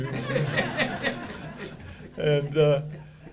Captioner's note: audience laughing